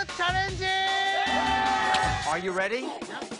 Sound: all cheer

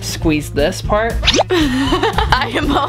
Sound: laughs

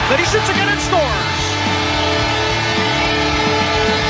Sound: goal horn

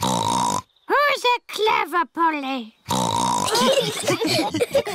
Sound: snorts; snorts; laughter

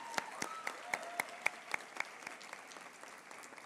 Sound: applause

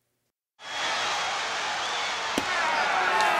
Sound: crowd yelling

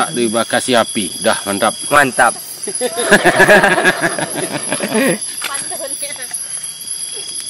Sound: laughs

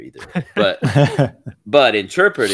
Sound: laughing

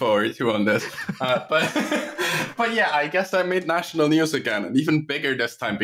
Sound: laughter

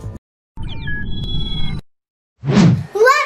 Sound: machine beeping; wind whooshing

